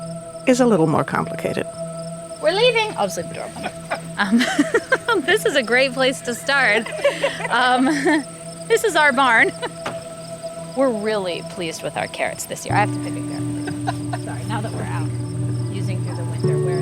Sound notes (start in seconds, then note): 0.0 soft ethereal music; 5.0 laugh; 7.9 everyone laughs; 11.2 laughs